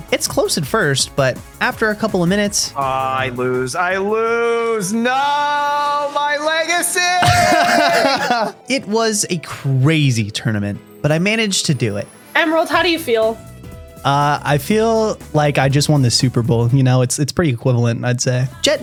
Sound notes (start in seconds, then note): 7.2 laughing